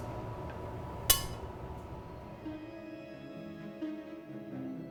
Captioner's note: glass banging